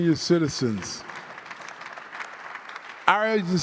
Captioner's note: crowd applauding